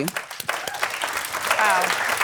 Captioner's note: applause